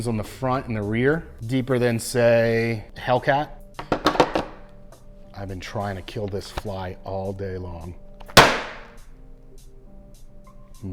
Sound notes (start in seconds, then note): 3.8 gun clattering; 8.2 book slamming